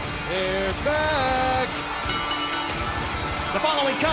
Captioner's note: bell